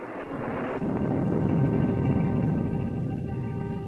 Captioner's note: thunder rumbling